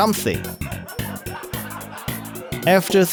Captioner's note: laughter